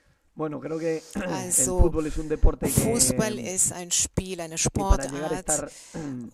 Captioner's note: coughs